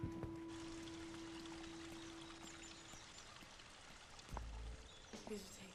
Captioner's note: water trickling softly